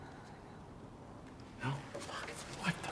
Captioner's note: whispers